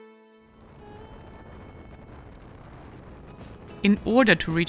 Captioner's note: wind howling; motorcycle engine revving